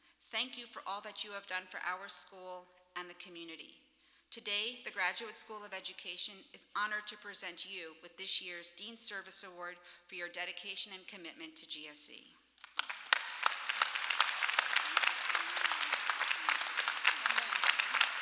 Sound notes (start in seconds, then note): 12.6 applause